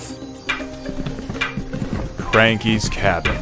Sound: footsteps and cane tapping on wood

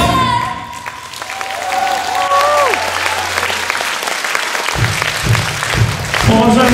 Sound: applause

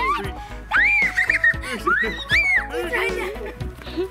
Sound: screaming

